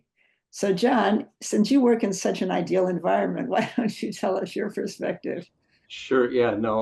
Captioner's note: laughs